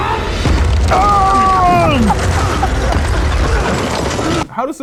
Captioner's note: crashing continuous